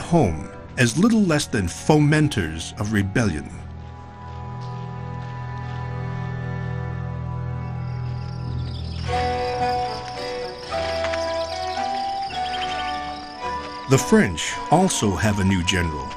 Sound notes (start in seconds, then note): 7.4 birds chirping; 8.9 gentle music